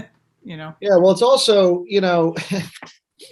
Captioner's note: laughs